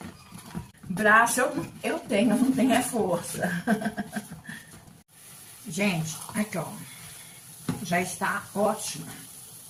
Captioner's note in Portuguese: risadas